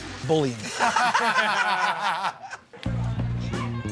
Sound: laughter

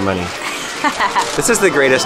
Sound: laughs

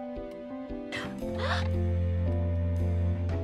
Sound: ANNIE gasps; BRITTA gasps

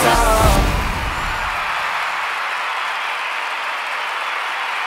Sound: crowd cheering

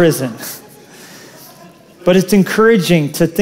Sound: laughter

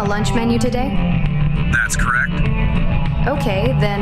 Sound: intercom

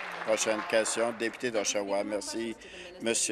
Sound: applause

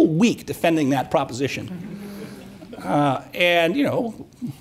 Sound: audience murmuring

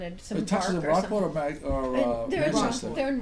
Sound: voiceover

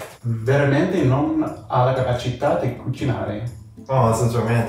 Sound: speaks in foreign language

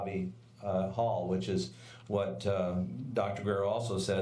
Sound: none

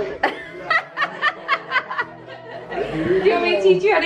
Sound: laughing

